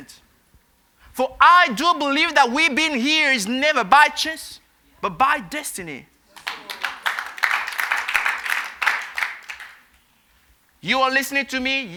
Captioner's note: applause